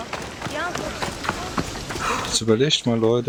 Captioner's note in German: stöhnen